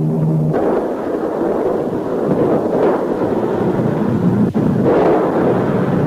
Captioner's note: explosions booming